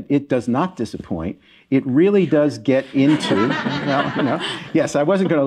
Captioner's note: laughter